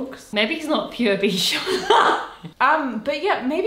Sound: chuckling

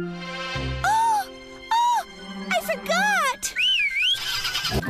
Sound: gasps; whistles; engine Cranks & Revs

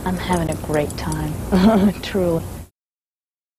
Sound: laughs

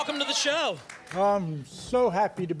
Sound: applause and cheering

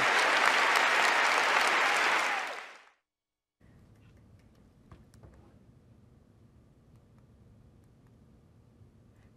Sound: applause

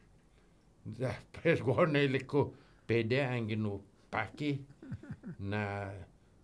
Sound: laughing

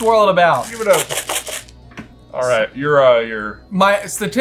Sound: beans rustling

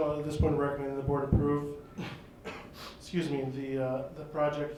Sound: coughs

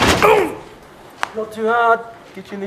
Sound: groan of pain

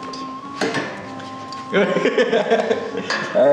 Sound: laughing

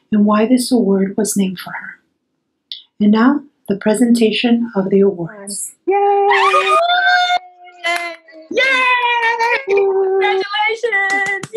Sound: cheering

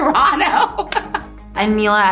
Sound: laughs

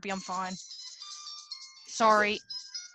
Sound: phone ringing

